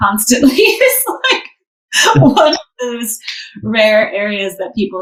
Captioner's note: laughs